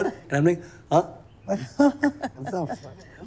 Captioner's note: laughter